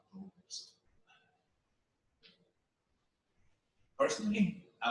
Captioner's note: pause